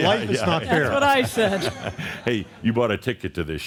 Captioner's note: more laughter